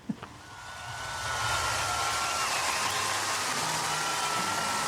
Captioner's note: audience cheering